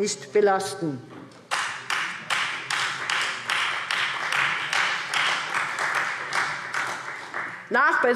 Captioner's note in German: Beifall Freie Demokraten